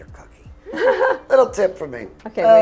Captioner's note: chuckles